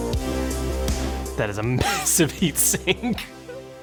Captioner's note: laughing